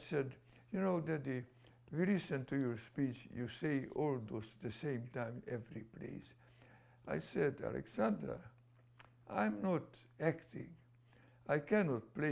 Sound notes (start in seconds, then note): none